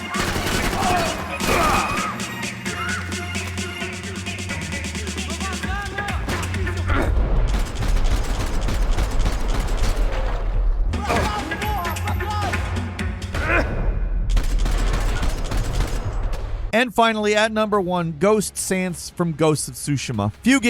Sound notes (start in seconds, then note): 0.0 person shouting in foreign language; 0.0 gunfire banging; 0.1 enemies grunting; 2.1 exciting music; 5.2 person shouting in foreign language; 6.9 gunfire banging; 11.0 person shouting in foreign language; 13.4 Max grunts; 14.2 gunfire banging